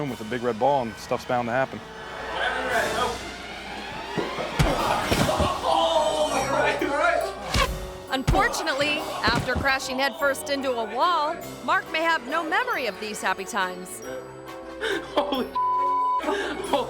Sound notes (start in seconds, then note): 5.4 student groaning; 15.6 beep